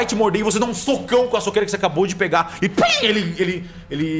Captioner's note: pow